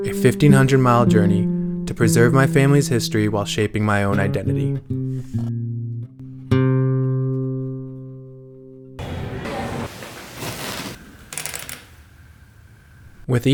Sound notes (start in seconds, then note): 9.0 plane engine revving; 9.0 people chatting; 11.6 bike chain clanks